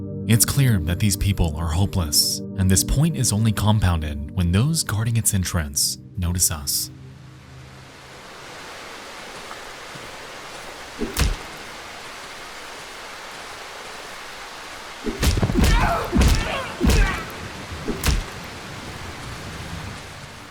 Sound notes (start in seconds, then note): 7.3 rain pattering; 11.1 characters groaning; 11.1 punches thudding